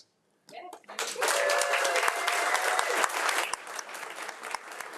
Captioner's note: audience applauding